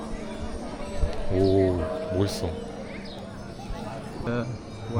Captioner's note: the big bell continues to ring